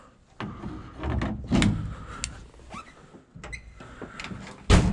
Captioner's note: steering wheel clicking in position; car door closes